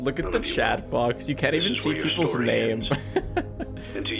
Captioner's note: laughs